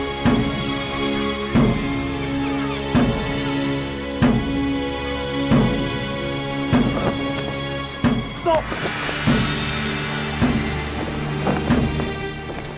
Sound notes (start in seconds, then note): 8.3 grunts; 10.1 drums bang